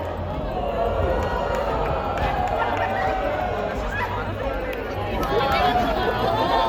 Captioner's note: crowd reacts, applause; crowd reacts